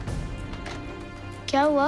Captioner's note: telephone receiver sound